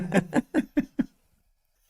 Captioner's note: both Laughing